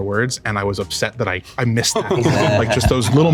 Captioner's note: group laughing